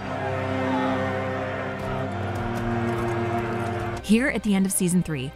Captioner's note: village people clamoring